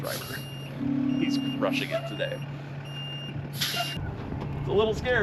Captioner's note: truck beeps